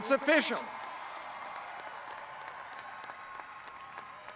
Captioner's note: audience cheering